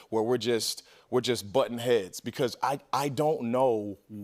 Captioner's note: none